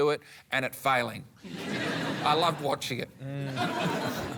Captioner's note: laughter